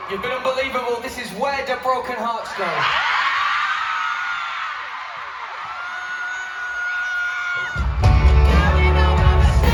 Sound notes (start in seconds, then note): 2.7 screaming